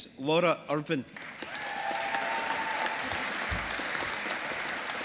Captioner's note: audience applauding